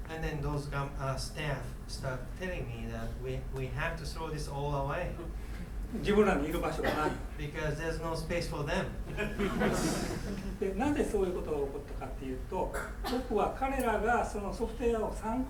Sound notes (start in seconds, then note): 6.0 speaking in foreign language; 6.7 coughing; 9.2 laughing; 10.7 speaking in foreign language; 12.7 coughing